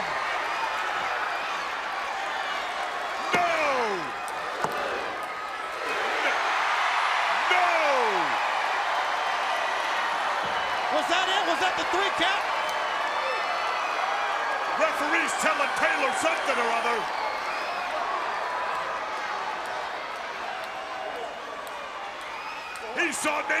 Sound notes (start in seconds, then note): 0.3 crowd cheering; 6.9 crowd cheering; 13.0 crowd cheering; 17.3 crowd cheering